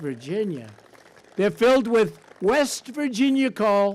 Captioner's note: applause